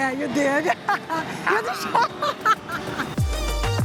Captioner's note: laughs